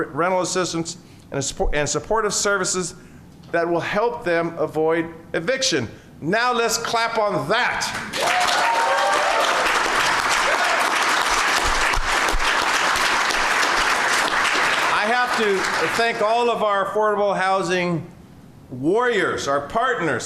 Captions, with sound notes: rental assistance and support and supportive services that will help them avoid eviction. Now, let's clap on that. (Applause) I have to thank. All of our affordable housing warriors, our partners.